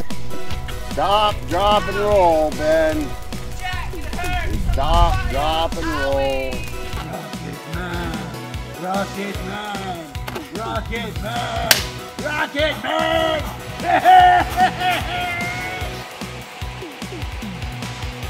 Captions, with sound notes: Stop drop and roll Ben... Jack it hurts! Just stop drop and roll. Owwieee! (chanting) Rocket man, rocket man, rocket man, rocket man! (cheers)